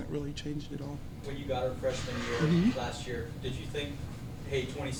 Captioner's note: voiceover